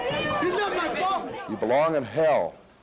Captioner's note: indistinct shouting